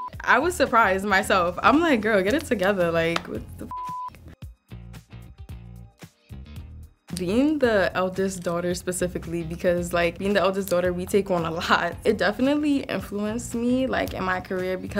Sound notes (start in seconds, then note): 3.7 beep; 5.1 jazzy music